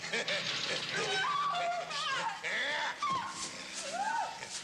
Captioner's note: Carrie screaming